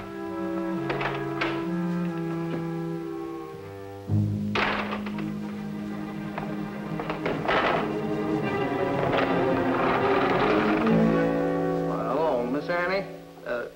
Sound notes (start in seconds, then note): 4.5 door slams; 4.9 tense music